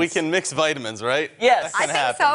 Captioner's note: laughter